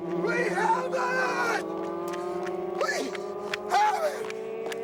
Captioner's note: shouting